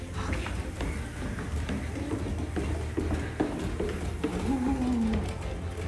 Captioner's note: footsteps descend the stairs